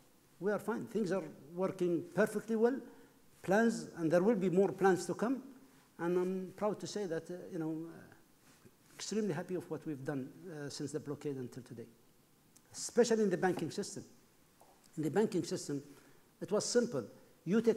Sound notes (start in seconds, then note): none